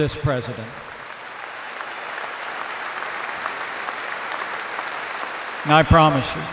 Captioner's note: applause